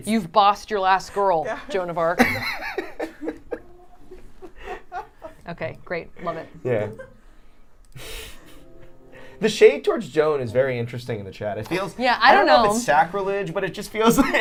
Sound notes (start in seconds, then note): 3.5 everyone laughing